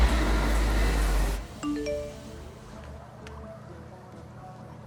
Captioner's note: phone chimes